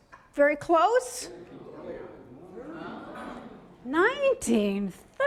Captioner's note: voiceover; audience chatter